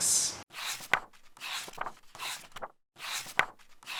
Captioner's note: pages turning